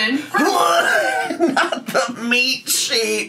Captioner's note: laughs